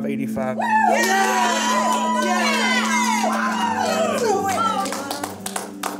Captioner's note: cheering and applauding